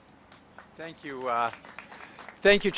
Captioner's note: applause